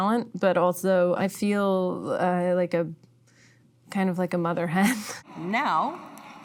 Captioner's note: laughing